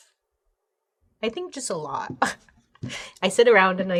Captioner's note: chuckles